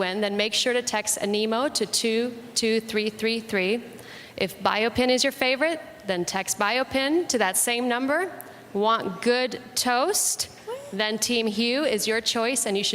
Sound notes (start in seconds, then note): none